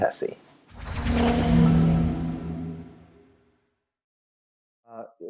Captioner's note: dramatic swoosh